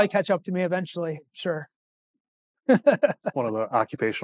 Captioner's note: laughing